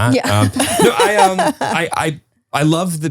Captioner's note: laugh